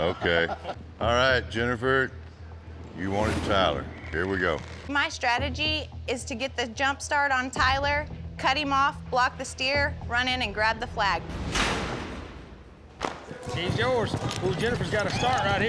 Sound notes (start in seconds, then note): 11.4 gates clank open